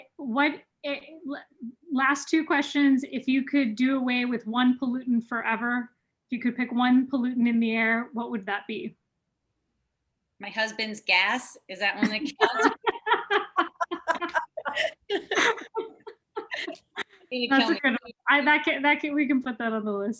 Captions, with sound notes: What last two questions, if you could do away with one pollutant forever, if you could pick one pollutant in the air, what would that be? My husband's gas is that when they can- (laughing) We can put that on the list.